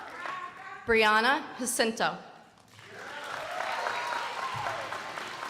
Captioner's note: crowd applauding